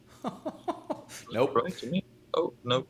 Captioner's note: laughing